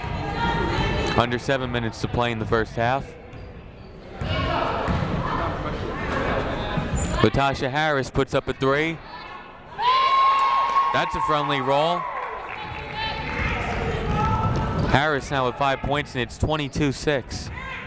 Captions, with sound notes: Under seven minutes to play in the first half. Latasha Harris puts up a three, (crowd cheers) that's a friendly roll. Harris now with five points and it's 22-six.